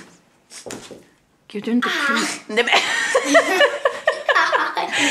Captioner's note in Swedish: skratt